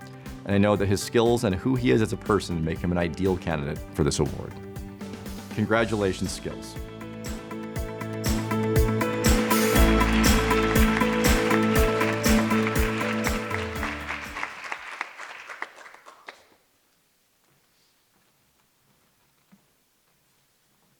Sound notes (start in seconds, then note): 7.6 uplifting music; 9.3 audience applause